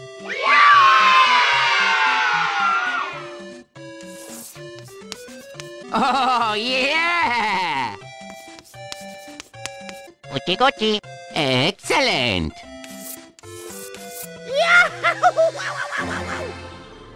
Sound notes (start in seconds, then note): 10.9 some MYSTERIOUS Language